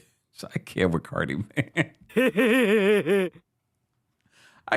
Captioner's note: laughs